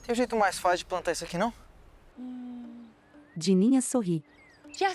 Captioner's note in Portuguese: Pássaros